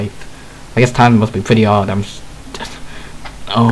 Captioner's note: sigh